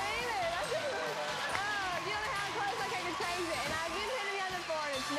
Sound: audience applauding

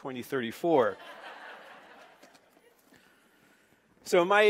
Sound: laughing

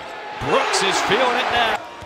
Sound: crowd cheering

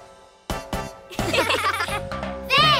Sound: laughing

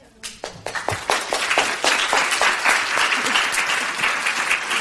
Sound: audience applauds

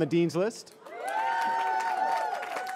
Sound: cheering

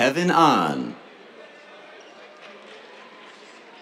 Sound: cheers, applause

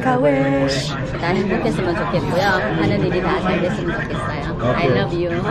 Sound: speaking foreign language

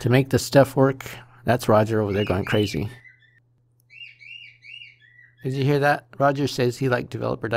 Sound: cockatiel singing

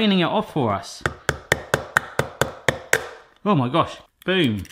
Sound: egg cracking

